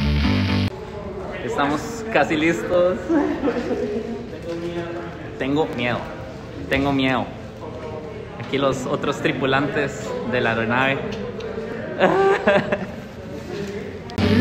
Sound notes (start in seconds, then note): 3.0 nervous laugh